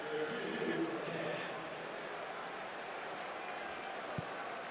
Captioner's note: pa announcement